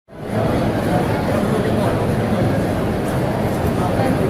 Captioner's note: crowd murmurs